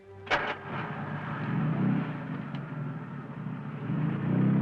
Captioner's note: engine revving